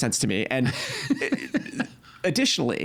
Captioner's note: laughing